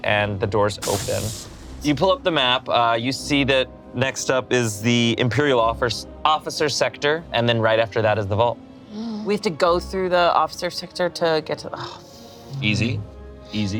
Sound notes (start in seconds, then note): none